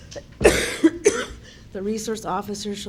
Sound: cough

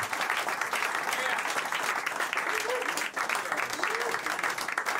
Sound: applause

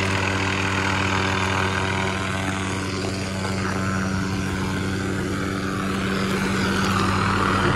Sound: helicopter whirring, slowly growing louder

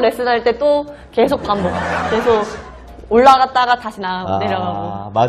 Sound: laughing

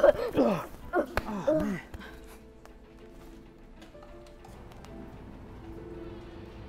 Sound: child coughing; grunts; child gasping

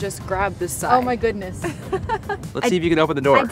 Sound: laughing

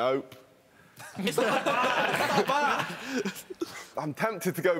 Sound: laughing drowns out speaking

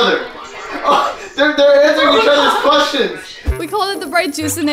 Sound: laughs

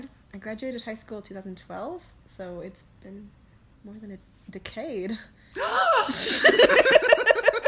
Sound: gasp!

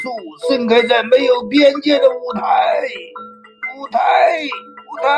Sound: man speaking Chinese

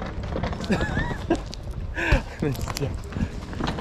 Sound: Luggage state just laughs

